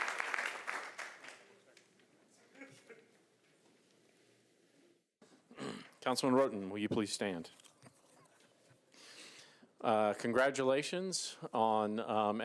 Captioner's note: applause